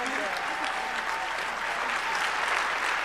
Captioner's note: applause